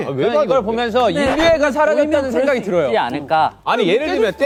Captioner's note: decibels rising with differing opinions